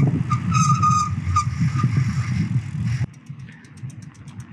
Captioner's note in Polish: pisk hamulców